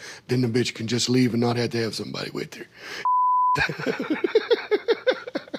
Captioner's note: beep; laughs